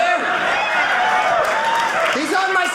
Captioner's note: audience laughing